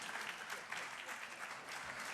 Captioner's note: applause